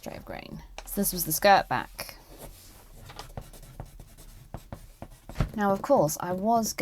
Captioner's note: pencil scratches